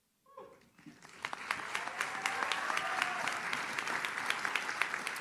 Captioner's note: audience claps